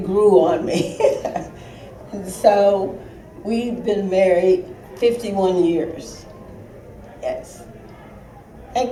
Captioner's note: laughter